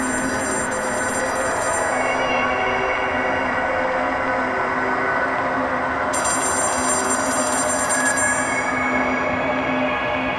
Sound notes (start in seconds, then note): 6.1 telephone ringing